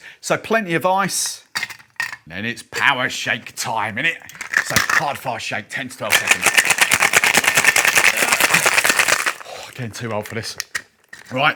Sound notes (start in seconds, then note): 1.3 ice clinking; 6.0 ice shaking